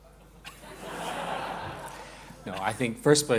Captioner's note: laughter